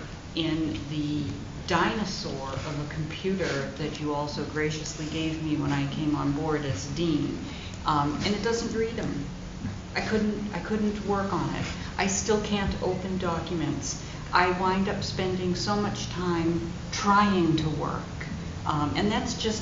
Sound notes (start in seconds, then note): none